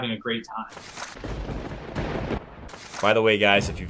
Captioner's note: thunder bangs